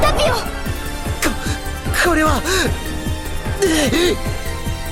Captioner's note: pained groan